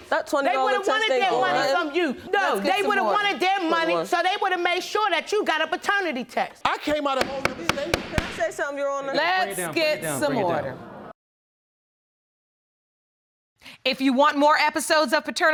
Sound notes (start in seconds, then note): 6.9 gavel banging